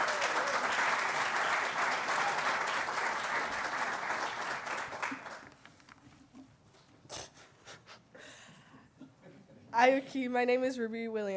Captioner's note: applause